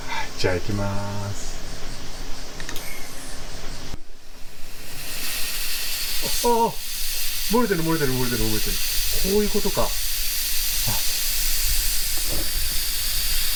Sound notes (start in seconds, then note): 2.9 sound of air passing; 4.0 sound of gas comingout